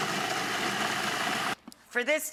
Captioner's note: machine buzzing